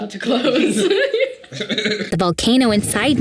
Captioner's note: both laughing